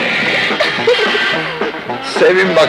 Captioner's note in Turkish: Ömer'in kıkırdaması